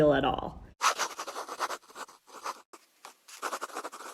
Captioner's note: scribbling sound